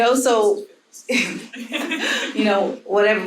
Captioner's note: panel laughing